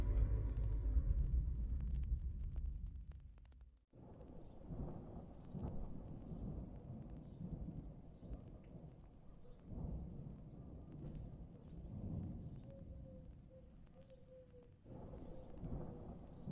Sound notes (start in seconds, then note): 4.1 thunder grumbling